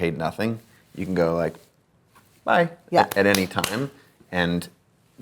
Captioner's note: claps